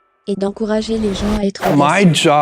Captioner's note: whoosh